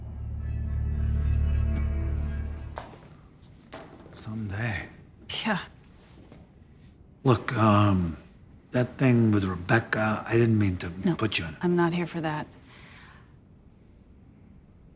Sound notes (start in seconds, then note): 1.0 dramatic music; 2.7 footsteps tapping